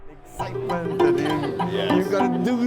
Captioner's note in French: rires